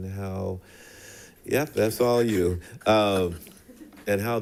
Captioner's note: people chuckling